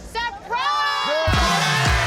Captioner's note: crowd; crowd exclaiming; upbeat music